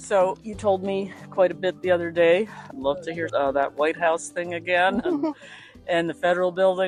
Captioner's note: giggles